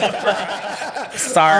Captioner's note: laughing